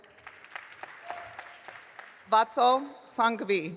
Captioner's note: audience applauding